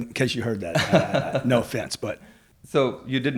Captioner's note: laughing